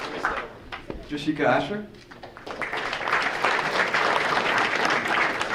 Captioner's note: audience applauding